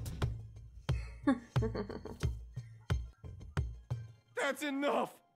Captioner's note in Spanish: Risita maquiavélica